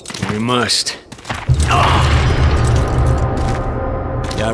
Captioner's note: grunts in pain